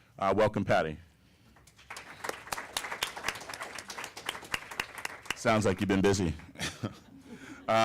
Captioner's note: applause